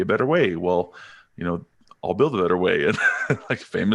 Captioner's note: laughing